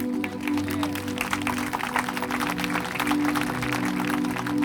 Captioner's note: hands clapping